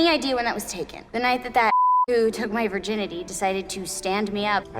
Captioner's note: beep